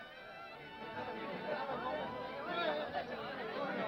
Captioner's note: people chattering